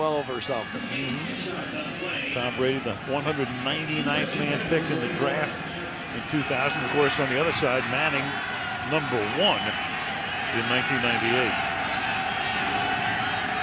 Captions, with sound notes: Number 12 or something. [pa announcement] Tom Brady, the 199th man picked in the draft in 2000. Of course, on the other side, Manning number 1 in 1998.